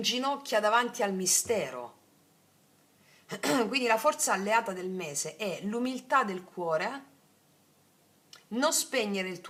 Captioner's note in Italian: schiarire la voce